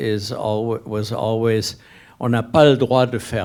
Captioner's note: speaking a foreign language